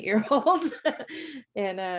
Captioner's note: chuckles